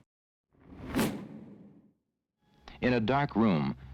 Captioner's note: air whooshes